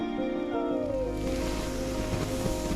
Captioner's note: cosy squeaking